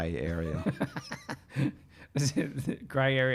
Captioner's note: laughing